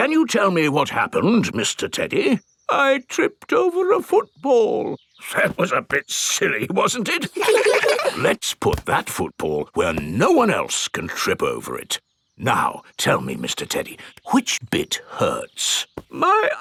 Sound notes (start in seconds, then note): 0.0 in teddy's voice; 0.3 in normal voice; 3.1 in teddy's voice; 5.8 in normal voice; 7.2 kids laugh